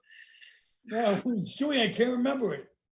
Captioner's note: heavy sigh